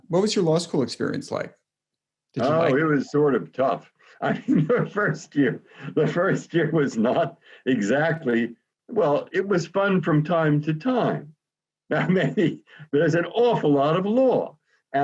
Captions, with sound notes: What was your law school experience like? - It was sort of tough. (laughs) The first year was not exactly, well, it was fun from time to time, but maybe, there's an awful lot of law.